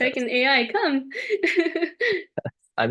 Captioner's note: laughs